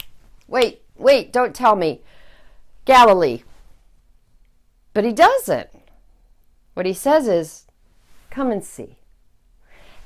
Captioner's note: fingersnap